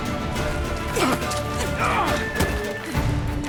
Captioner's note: grunt; groan